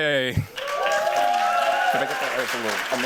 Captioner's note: cheers, applause